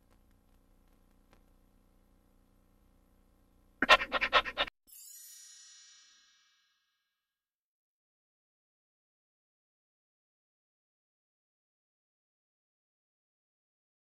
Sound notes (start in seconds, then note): 0.0 VHS static; 3.7 dog panting; 4.9 twinkling sounds; 7.9 silence